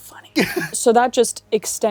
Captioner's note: laughs